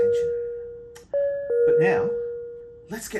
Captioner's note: bell ringing